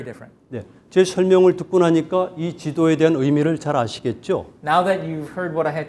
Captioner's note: speaking in Korean